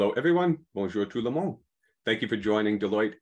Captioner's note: speaking in foreign language